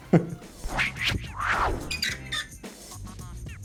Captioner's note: electronic tone buzzing; upbeat music